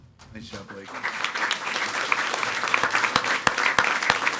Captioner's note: people clapping